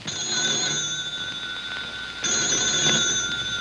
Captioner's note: ring